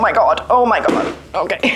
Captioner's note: bang!